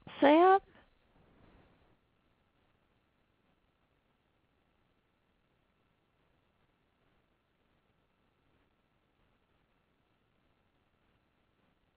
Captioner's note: silence